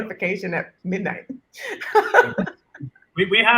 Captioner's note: chuckles